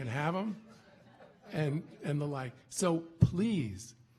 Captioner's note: audience laughing